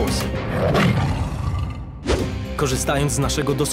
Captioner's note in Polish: warknięcie lwa